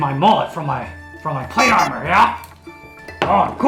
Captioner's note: bicycle horn noise